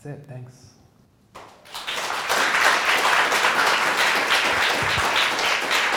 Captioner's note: audience applauding